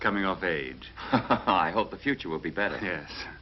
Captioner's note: laughs